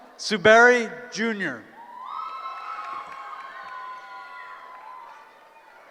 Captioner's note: cheering